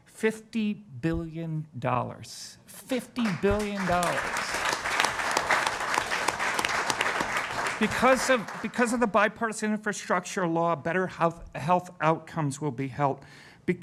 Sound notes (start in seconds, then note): 5.3 applause